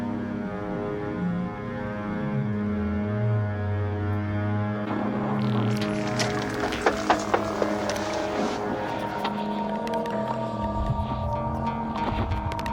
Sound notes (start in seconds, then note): 5.8 knocking